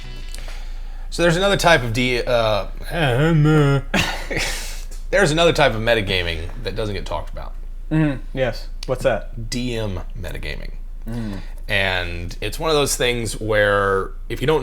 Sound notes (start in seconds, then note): 3.1 mouth noise